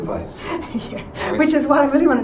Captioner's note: laughs